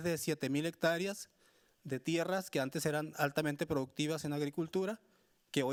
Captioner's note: speaking Spanish continues